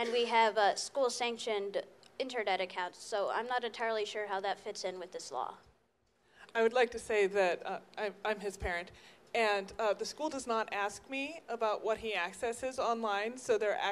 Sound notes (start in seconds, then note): 6.8 voiceover